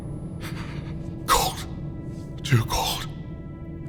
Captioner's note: panting